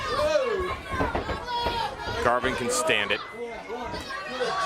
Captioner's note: crowd chatter